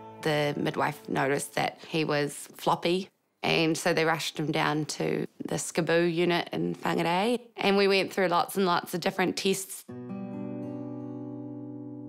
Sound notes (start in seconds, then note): none